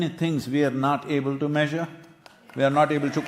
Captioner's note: cheering/Applause